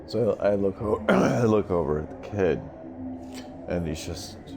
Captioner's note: clears throat